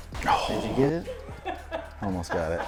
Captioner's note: laughing